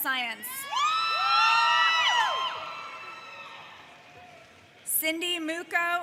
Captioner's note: audience cheers